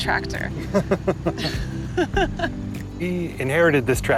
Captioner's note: both chuckle